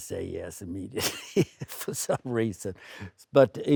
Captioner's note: laughing